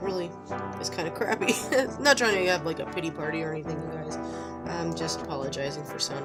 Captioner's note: laugh